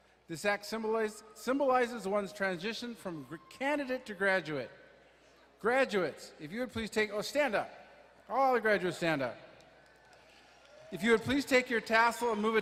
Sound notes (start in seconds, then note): 10.0 audience cheering